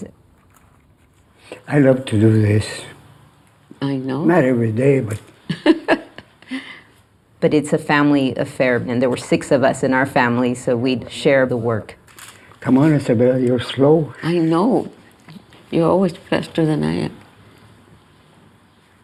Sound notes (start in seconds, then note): 7.0 chuckles